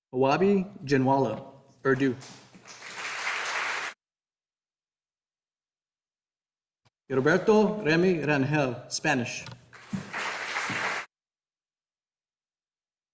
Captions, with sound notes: Wari Jamolo, Urdu. (audience applauding) Roberto Grani Granjel, Spanish. (audience applauding)